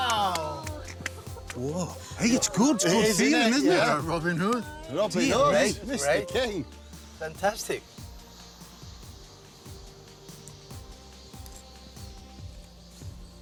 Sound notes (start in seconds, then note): 0.2 giggling